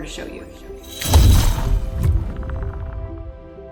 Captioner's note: lightning striking